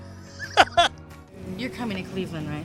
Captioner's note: Cameron laughs